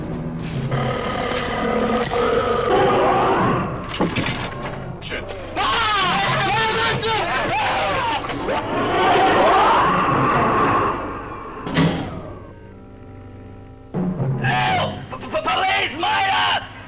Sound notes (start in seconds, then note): 0.6 Pete as the monster roaring; 5.1 men screaming and chattering; 11.6 head banging